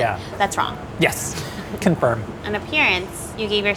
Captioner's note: laughs